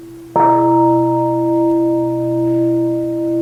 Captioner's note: bell